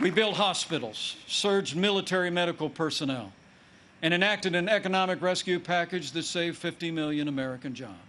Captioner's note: applause